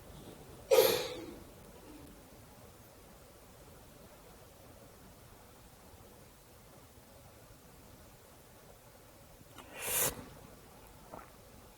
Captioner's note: long pause